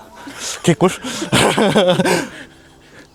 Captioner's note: chuckles